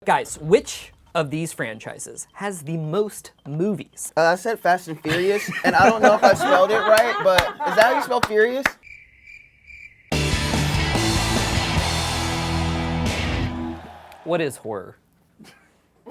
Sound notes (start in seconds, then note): 9.0 crickets chirping; 11.3 audience cheering; 15.9 laughter